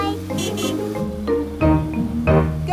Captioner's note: horn honking